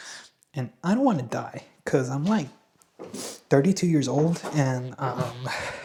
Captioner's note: snorts